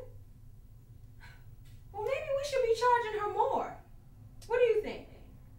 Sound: scoffs

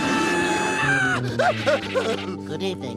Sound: bear growling; screaming; panting

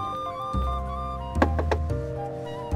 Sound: knocking

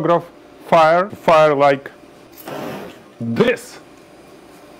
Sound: whooshing

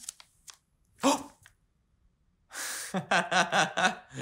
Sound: he gasps jokingly; he laughs

